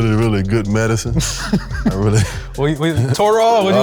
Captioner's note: laughing